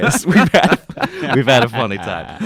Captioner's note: laughing